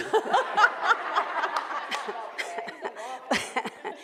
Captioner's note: laughing